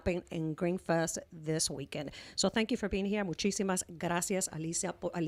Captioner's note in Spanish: Hablando ingl\s